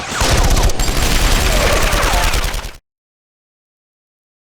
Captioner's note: guard groans